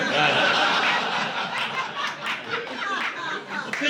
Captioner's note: laughter